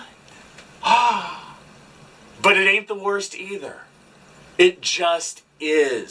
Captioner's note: gasp